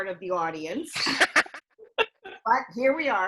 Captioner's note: laugh